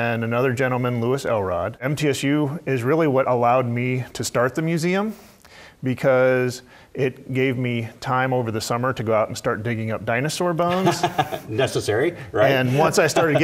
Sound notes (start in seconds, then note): 10.7 laugh